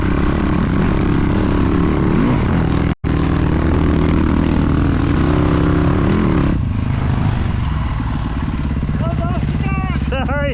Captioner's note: engine revving